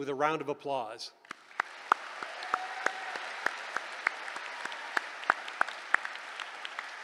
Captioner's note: applause